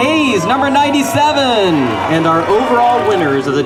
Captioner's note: cheering